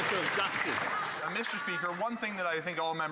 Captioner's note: some Applause